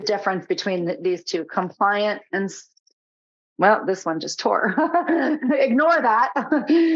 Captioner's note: laughing